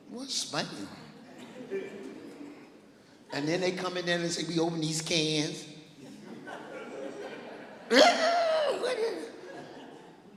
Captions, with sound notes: "What's Spam?" Then they come in there and they see we open these cans. (laughing) "Ew, what is it?"